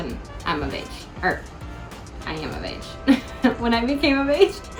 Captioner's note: laughs